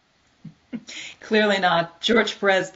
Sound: laughs

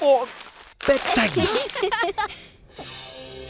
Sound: laughing

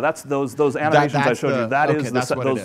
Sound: overlapping chatter

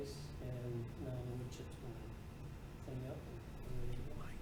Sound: speaking off-mic

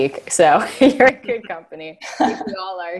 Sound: laughing

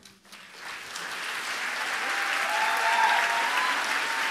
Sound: audience applauds

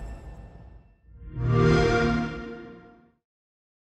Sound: xbox sound

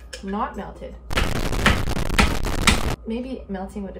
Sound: static buzzing; tapping processor

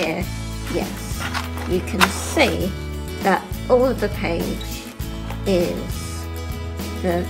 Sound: laughs

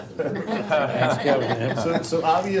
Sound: laughter

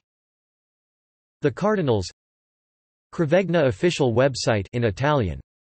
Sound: in Italian

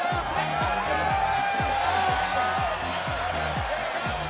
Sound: crowd cheers

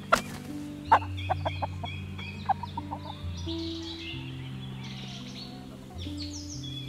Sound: chickens squawk and cluck

